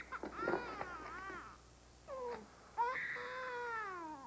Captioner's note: sta cries